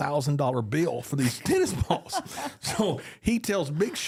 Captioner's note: both laugh